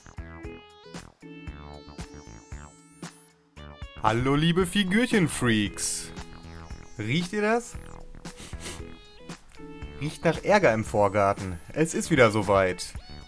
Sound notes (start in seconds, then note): 8.2 sniff sniff